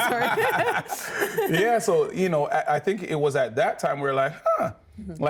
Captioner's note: everyone laughing